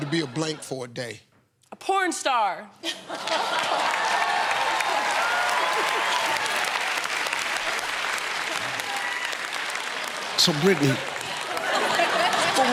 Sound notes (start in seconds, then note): 4.1 cheers and applause